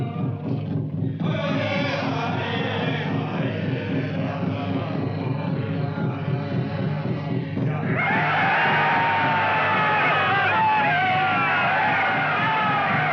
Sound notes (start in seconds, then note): 0.6 indians singing in foreign language; 7.9 indians hollering